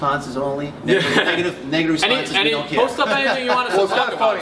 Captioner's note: laughs